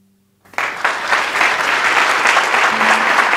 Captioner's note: applause